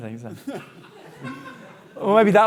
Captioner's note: audience laughing